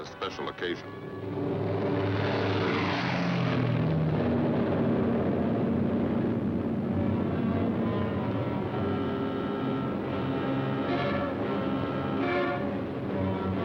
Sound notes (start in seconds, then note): 3.8 engine sounds